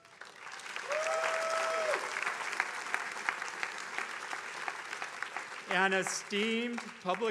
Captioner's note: attendees applauding